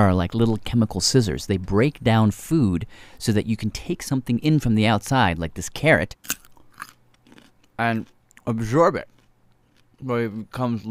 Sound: crunches carrot

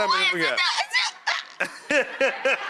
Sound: Rachael stammering; Buddy and audience laugh

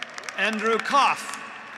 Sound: graduates applauding

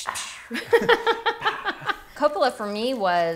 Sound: laughing

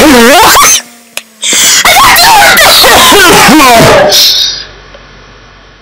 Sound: laughter

